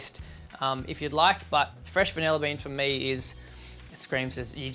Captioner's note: inhales